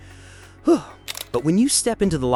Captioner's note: exhales